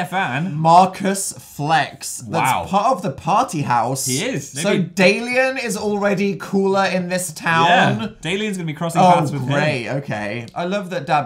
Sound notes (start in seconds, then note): 9.7 sarcastic